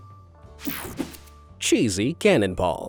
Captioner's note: graphic whooshing